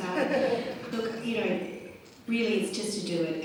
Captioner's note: laughter